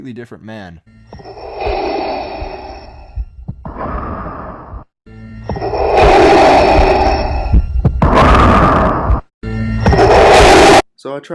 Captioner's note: heavy breathing